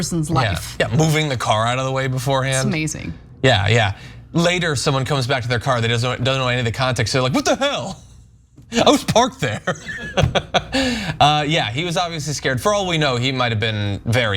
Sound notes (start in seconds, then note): 8.7 laugh